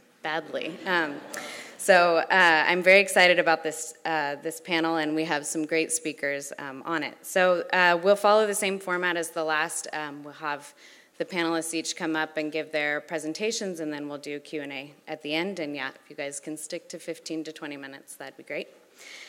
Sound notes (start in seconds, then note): 0.6 laugh